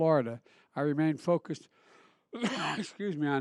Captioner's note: coughs